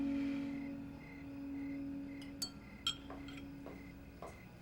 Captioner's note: soft dramatic music; crickets chirping